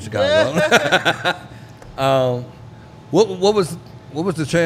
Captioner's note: laughing